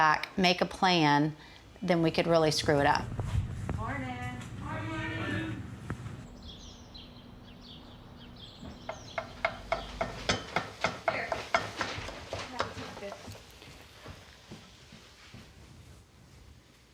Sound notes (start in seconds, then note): 8.6 spoon knocking inside pot